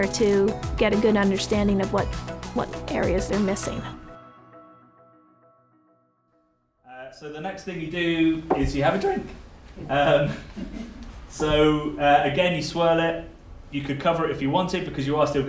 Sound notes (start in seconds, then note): 9.8 laughing